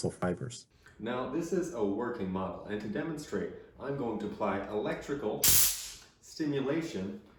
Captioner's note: taser crackles